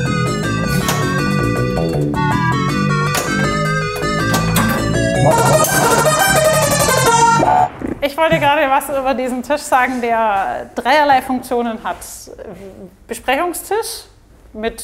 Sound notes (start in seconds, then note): 5.3 game sounds